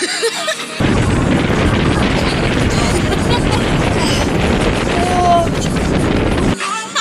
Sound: the wind getting stronger

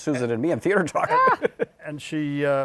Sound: laughs

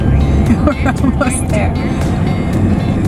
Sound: mom laughing

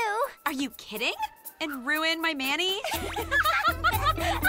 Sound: alex and sam laugh

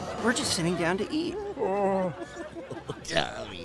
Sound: all laughing, Tommy whimpering

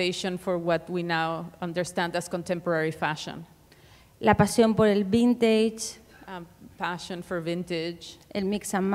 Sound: speaking Spanish

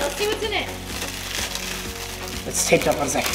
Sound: bubble wrap rustling

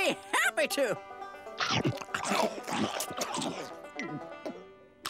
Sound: chomping

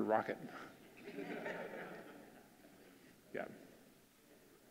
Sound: audience laughing

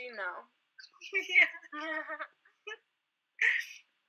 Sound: laughing; laughs

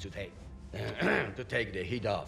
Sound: clears throat

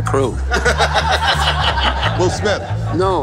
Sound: laughing

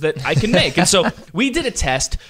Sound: laughs

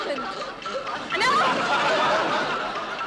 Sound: audience laughing

